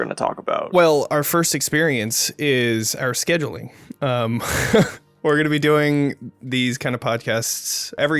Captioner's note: laughs